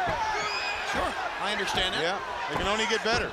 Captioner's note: crowd cheering